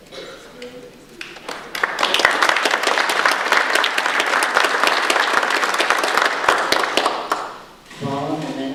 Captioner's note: audience applause